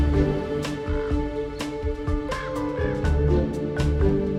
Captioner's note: crows cawing